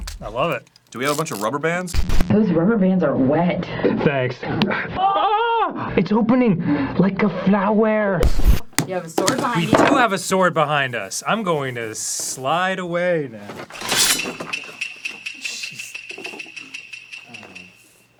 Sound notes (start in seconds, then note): 13.7 sword unsheathes with a *shink; 13.9 dramatic tsuke